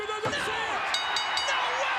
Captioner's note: bell ringing